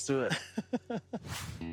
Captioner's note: laughing